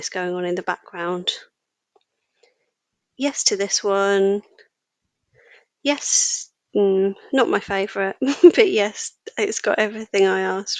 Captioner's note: laughing